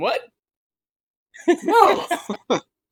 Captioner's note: laughing